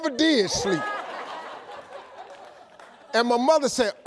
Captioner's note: audience laughs